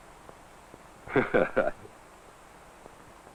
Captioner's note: smug chuckling